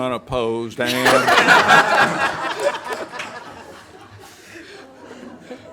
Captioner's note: everyone laughs